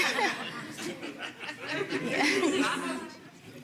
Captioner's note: audience laughing